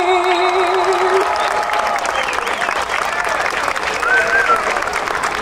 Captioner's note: audience cheering and applauding